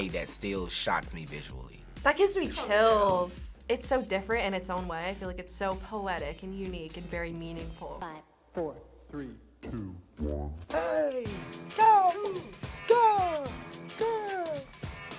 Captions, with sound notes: that still shocks me visually. - That gives me chills. - It's so different in its own way. I feel like it's so poetic and unique and very meaningful. - (voice-over, pitch dropping) Five, four, three, two, one. - Ay! Go! Go! Go!